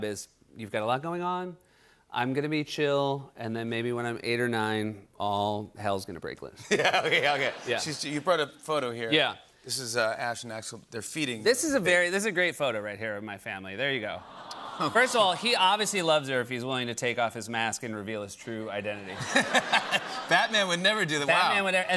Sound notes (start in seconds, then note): 6.6 laughter; 14.2 audience aws; 18.9 laughter